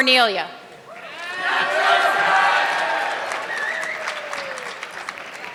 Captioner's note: audience clapping